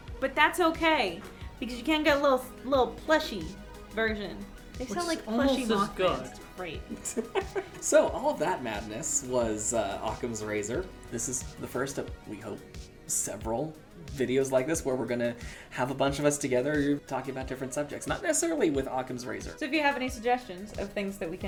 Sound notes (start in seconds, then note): 6.8 laughs